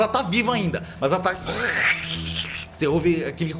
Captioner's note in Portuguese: Barulho da aranha